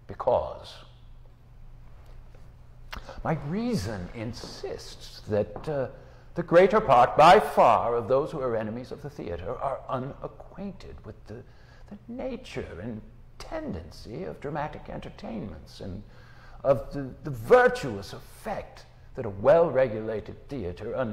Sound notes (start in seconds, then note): none